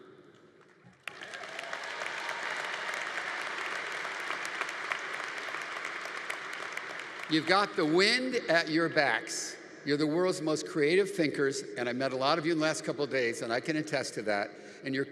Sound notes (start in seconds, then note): 0.8 audience applauding; 1.0 audience cheering